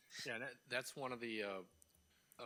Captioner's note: person laughing